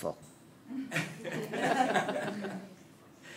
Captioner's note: laughter